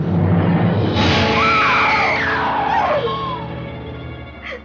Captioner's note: screams